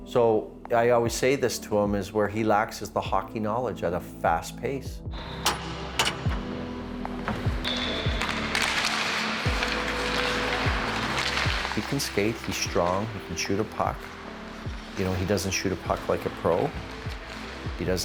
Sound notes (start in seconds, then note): 4.7 upbeat music; 7.9 whistle blowing; 8.9 sticks slapping